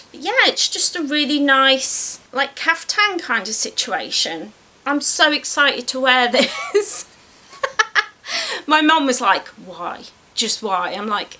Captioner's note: laughs